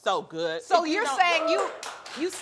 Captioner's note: audience cheering